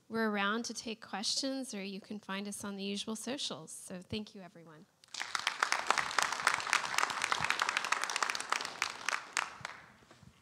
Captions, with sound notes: We're around to take questions or you can find us on the usual socials. So, thank you everyone. (audience applauds)